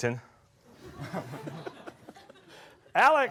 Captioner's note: laughter